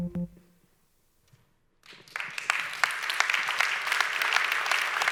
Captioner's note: upbeat music; audience applauding loudly